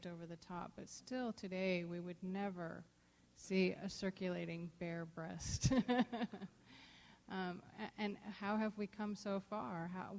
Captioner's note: laughs